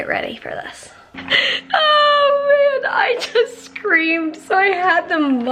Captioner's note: chuckling